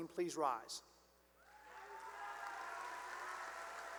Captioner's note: cheering and applause